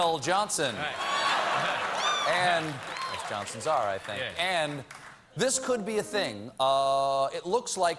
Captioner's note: laughter